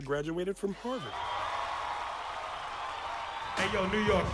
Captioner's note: audience cheering